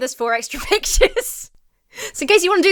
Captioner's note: laughs